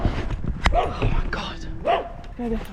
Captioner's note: barking